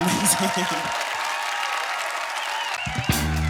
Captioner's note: audience cheering; upbeat funky music